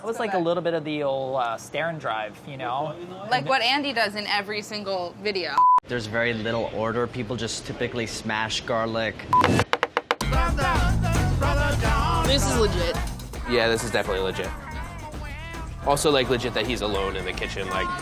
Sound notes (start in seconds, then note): 5.6 beeping; 9.3 beeping; 9.4 tapping; 10.4 upbeat music